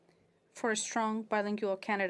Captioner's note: speaking FRENCH